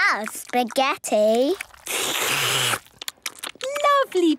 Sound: all slurping

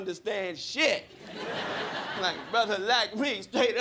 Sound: crowd laughing

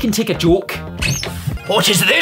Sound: door squeaks open

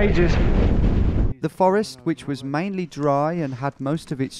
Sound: voiceover

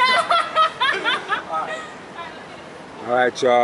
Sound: laughing

